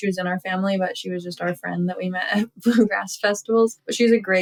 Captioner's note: laughter